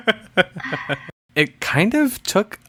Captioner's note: laughs